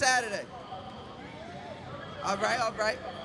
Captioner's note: crowd cheers